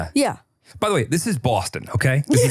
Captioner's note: laughs